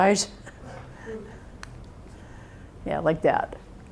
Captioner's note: chuckles